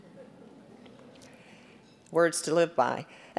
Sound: audience chuckling

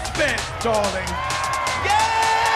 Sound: crowd cheering

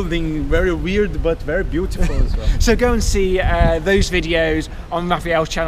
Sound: chuckling

